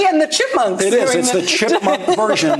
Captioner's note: laughter